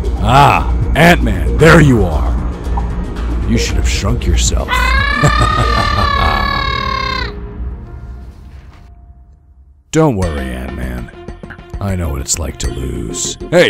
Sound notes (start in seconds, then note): 4.8 Thanos laughing; 4.9 Ant-Man yelling